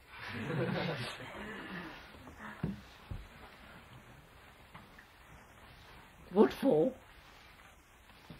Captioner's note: laughter